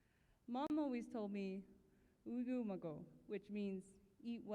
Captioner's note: non-english speech